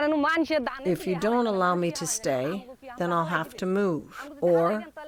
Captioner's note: through translator